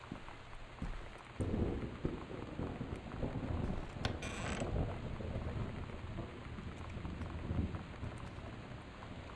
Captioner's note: thunder